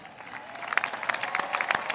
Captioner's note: applause